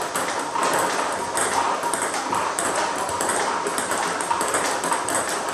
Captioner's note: ball ping pong hitting continues